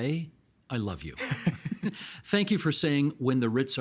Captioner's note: chuckling